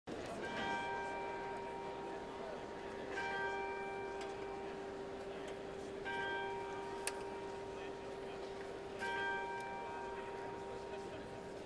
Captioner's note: bell Rings 5 times